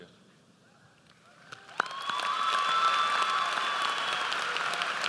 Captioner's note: audience applauds